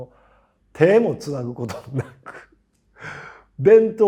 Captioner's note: laugh